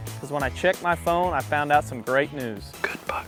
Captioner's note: whispering